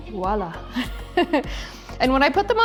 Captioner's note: laughing